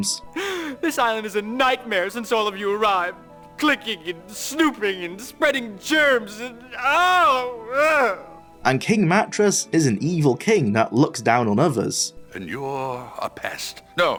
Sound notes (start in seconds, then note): 5.8 groans